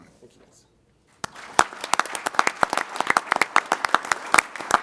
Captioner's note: applause